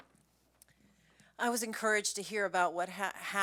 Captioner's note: soft Voice